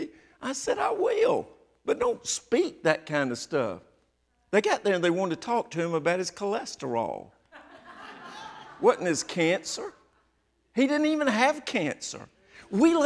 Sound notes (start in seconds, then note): 7.6 audience laughing